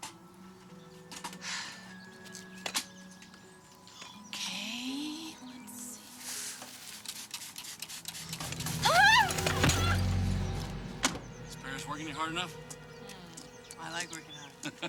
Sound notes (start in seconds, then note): 6.9 water spritzing; 8.6 screaming